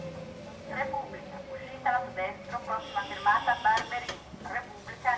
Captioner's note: automated announcements